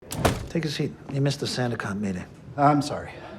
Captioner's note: door clicks shut